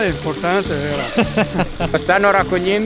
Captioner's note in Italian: risate